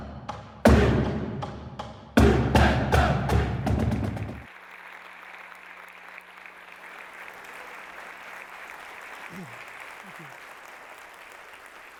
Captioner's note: applause